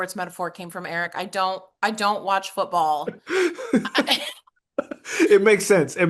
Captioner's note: laugh